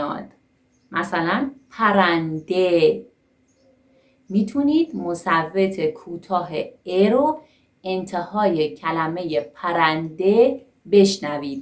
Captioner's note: bird